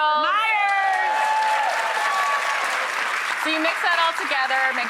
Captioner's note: audience cheering and applauding